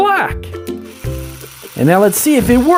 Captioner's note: toy drilling